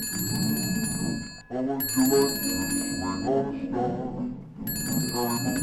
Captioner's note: phone ringing